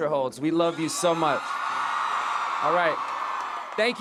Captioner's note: audience cheering